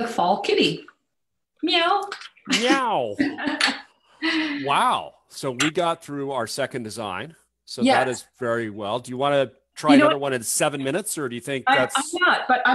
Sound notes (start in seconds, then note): 2.5 laughs